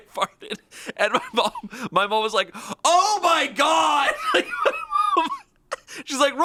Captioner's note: laughs